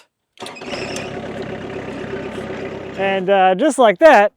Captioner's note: vehicle rumbling